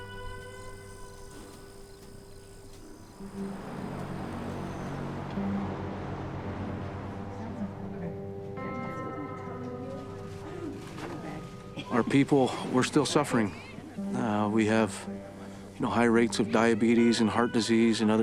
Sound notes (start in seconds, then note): 2.6 traffic whooshing